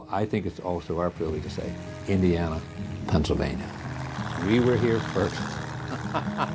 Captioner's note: laughs